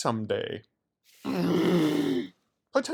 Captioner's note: growl